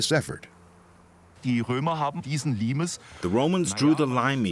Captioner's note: speaking German